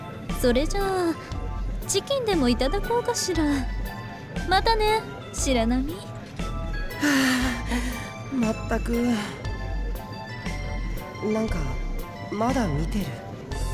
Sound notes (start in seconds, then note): 7.0 sigh of relief